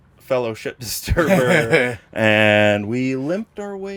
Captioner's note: laughs